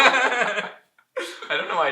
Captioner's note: laughter